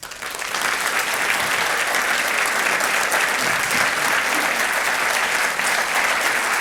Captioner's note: audience applauding